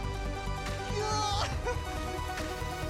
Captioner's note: laughing